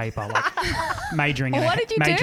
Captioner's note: laughing together